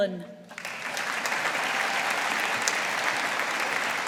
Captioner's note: audience applauding